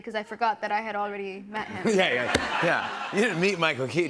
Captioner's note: laughter